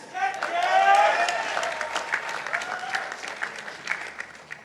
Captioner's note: participants applauding